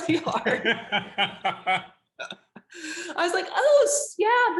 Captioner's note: laughing